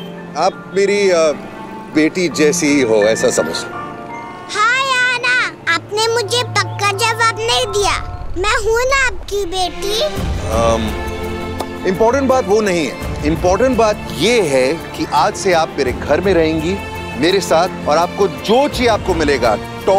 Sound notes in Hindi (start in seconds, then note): none